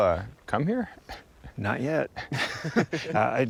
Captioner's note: laughing